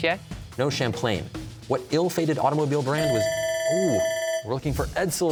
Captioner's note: bell ringing